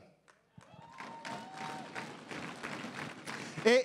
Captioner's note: crowd cheering and applauding